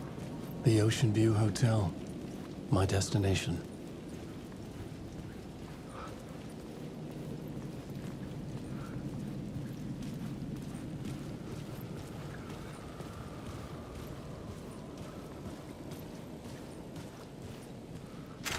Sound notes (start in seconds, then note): 9.5 wind whistling; 15.0 camera shutter clicks